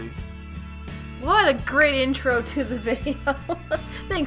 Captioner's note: laughs